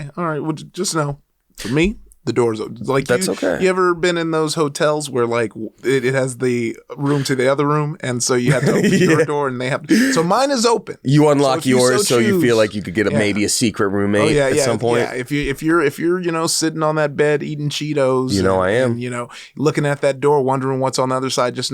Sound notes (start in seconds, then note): 8.4 laughs